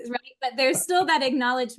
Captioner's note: laughs